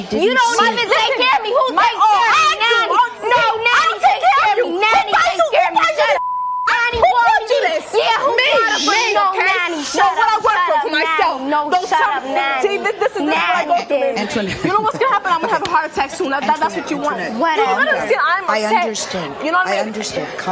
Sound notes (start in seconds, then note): 10.9 overlapping chatter